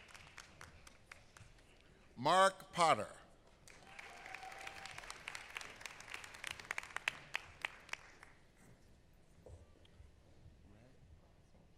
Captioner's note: applause